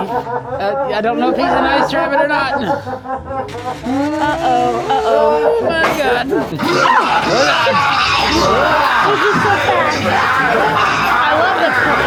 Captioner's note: evil laughter